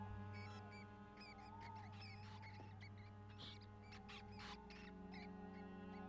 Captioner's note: pensive music; rats squeaking